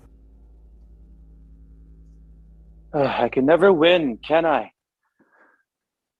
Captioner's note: silence